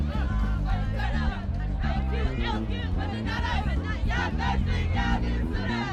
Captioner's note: students cheering and singing